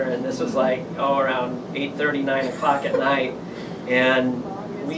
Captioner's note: girls giggle